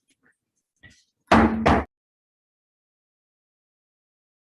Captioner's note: gavel banks twice